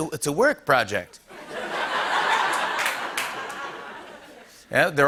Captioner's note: laughter